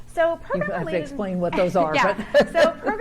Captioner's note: laughs